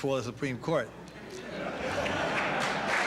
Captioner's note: laughter; applause